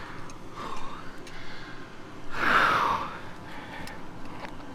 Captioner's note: takes Big Deep Breath